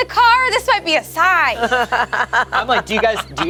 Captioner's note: laughs